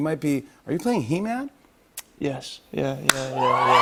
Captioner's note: cheers and applause